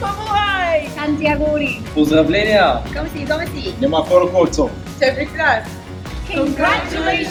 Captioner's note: various languages